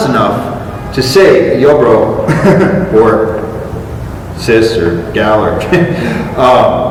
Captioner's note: chuckle